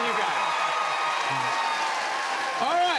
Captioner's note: cheers and applause